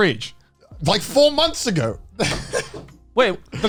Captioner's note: laughs